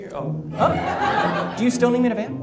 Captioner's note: audience laughs